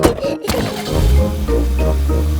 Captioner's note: laughing; car engine starts